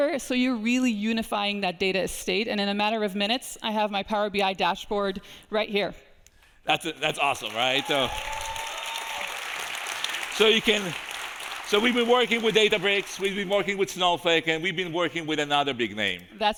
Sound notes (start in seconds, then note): 7.0 audience applauding